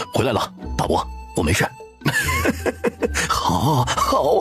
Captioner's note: laughing